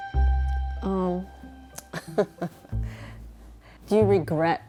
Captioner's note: laughs